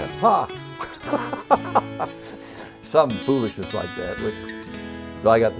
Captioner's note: laughing